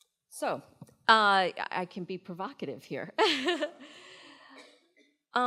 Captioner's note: laughs